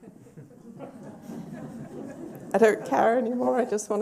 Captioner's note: laughter